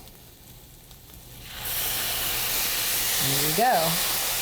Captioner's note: wine sizzling in pan